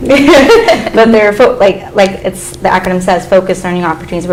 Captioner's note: laughs